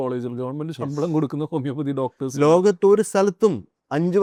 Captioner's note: laughs